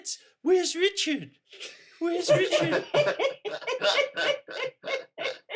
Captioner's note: parents laughing